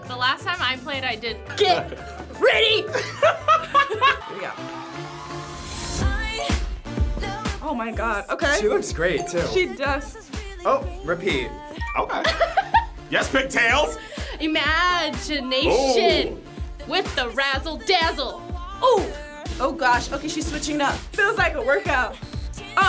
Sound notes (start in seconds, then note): 2.8 laughs; 12.2 laughs